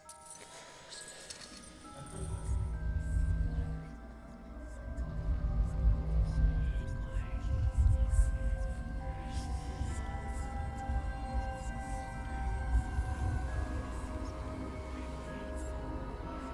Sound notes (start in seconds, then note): 1.7 eerie whispering; 1.7 soft dramatic music